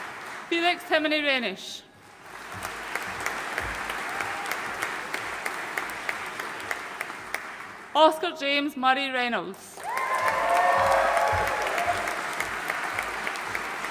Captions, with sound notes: Felix Timothy Reynish. (AUDIENCE APPLAUDING) Oscar James Murray Reynolds. (AUDIENCE CHEERING AND APPLAUDING)